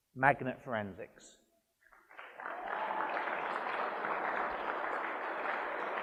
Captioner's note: applause and cheering